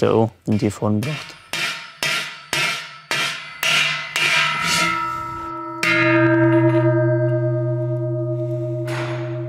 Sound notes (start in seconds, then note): 4.6 dull, deep sounds of bells